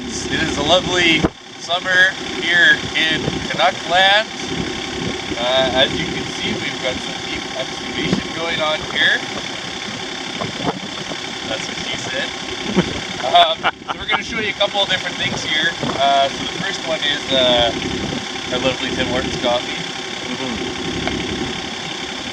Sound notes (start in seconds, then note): 11.5 laughing